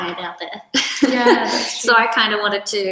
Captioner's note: laughs